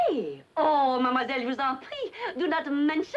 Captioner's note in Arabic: تتحدث بلغة أجنبية